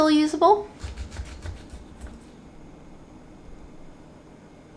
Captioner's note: ginger scraping